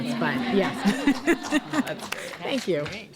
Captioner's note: applause